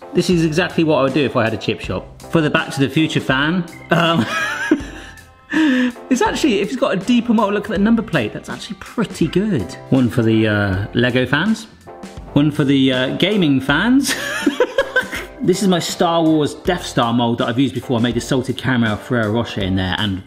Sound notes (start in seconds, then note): 3.9 laughs; 14.2 laughs